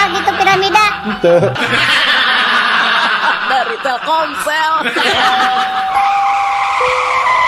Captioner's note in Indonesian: tertawa